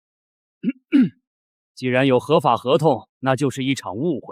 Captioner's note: cough